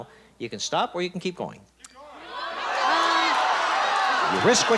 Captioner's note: audience shouting